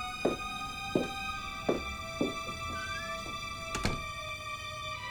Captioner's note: heels clattering; door clicks